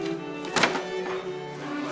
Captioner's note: basket clattering; gentle orchestral music